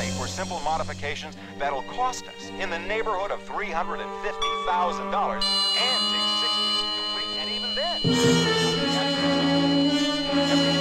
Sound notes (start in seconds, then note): 4.1 alarm blaring; 5.2 tone warbles; 8.2 tense music